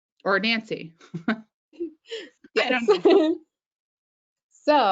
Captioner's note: laughing